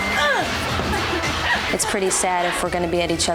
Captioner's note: grunts